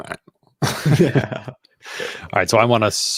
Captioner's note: chuckling